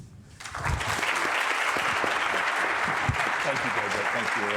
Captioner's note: audience applauding